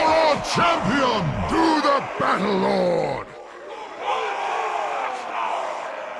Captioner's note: cheer